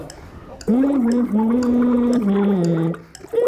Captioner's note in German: Er summt eine Melodie, Blubbern